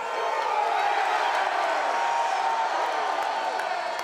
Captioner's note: crowd cheers